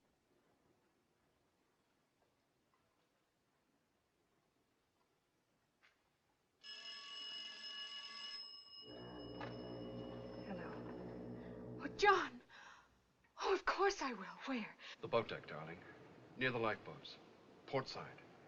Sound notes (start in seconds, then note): 7.4 ringing; 8.9 foghorn Blows